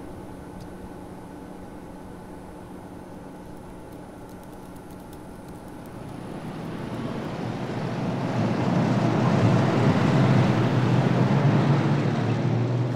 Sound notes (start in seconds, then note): 5.9 keyboard clicking; 9.5 car engines rumbling